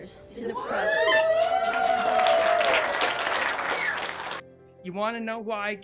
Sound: cheering and applauding

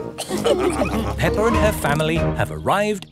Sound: all laughing

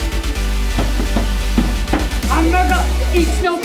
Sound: stomping

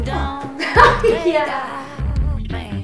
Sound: laughs

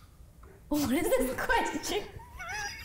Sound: laughing

